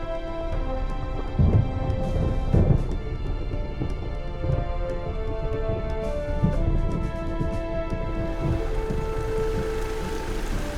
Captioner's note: thunder rumbling